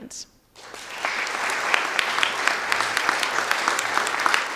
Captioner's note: audience applauding